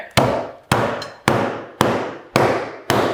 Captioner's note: wood bangs